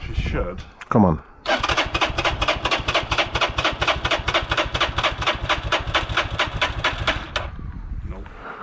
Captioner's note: engine turning